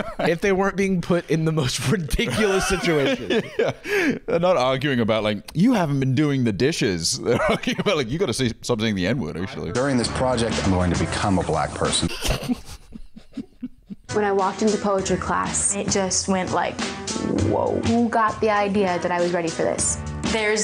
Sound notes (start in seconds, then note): 2.1 laughs; 12.0 laughter